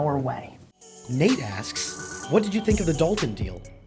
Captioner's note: voiceover